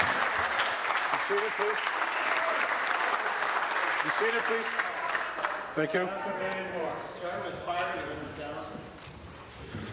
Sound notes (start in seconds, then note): 4.6 applause